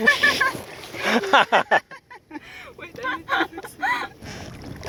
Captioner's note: laughs